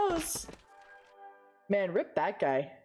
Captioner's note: body wetly thwacks against the wall